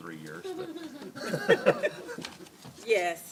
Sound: laughter

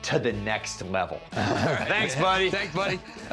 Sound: chuckles

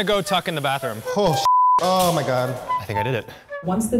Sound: beeps

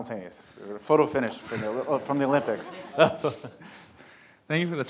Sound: laughs

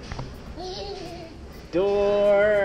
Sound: child laughs

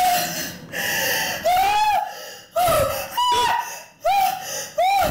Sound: woman screams

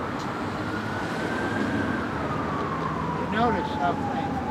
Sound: sirens

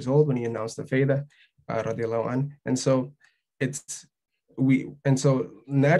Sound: speaking arabic

